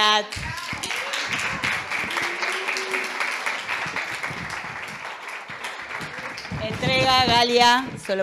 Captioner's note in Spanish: Aplausos